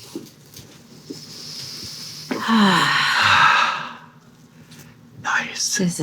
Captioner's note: actors inhaling and exhaling